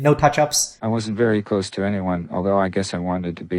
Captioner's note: AI Voice